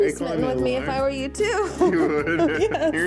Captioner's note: laughs